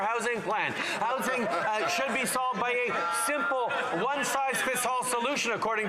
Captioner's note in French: voix de l'interprète